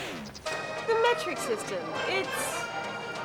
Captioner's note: French accent